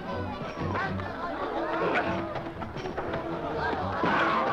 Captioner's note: men shouting